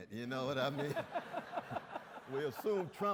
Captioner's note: audience laughs